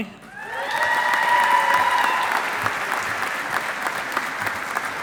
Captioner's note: audience applauding